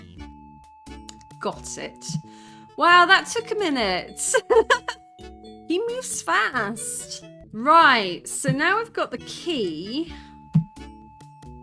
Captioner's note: laughing